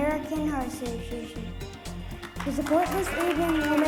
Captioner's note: applause